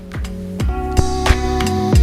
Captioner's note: micdrop